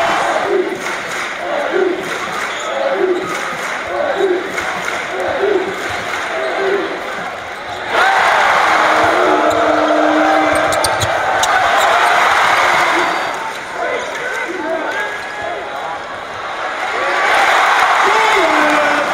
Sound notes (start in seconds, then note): 0.8 claps twice; 2.5 ag-gies chant continues; 7.8 crowd cheers; 9.2 indistinct cheering